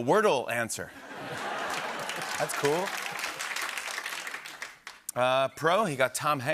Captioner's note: laughter